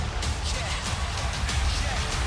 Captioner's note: crowd chants "nxt"